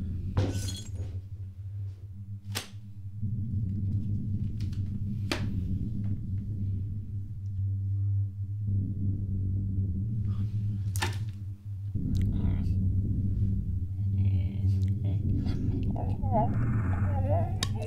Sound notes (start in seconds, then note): 0.4 glass shatters; 9.3 suspenseful ambient music